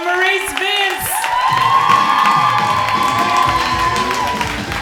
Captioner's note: crowd cheering